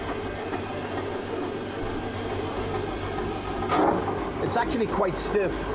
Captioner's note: machine whirring